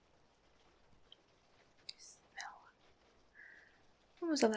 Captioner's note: whispers